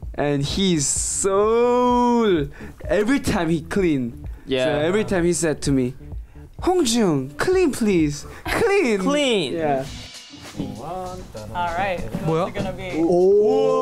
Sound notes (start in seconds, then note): 11.5 hums